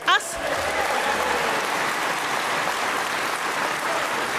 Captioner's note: audience applauds